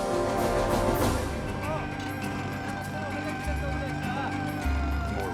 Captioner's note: jackhammer Hammering; people Chattering In Korean